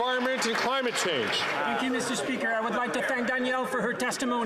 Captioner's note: some Applause